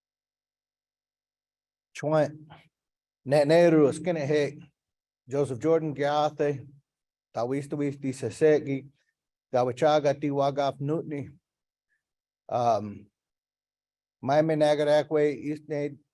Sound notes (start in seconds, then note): 2.0 speaking in foreign language